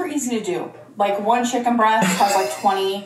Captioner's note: laughing